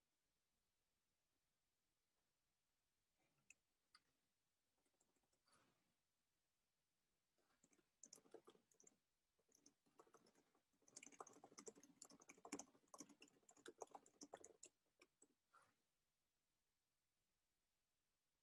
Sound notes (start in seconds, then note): 7.5 keyboard clicks